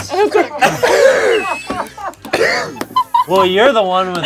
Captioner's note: everyone laughs